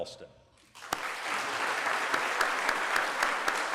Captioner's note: applause